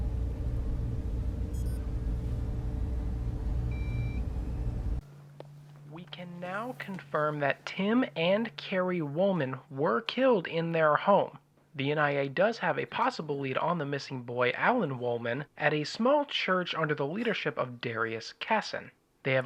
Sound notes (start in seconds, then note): 1.4 machinery beeping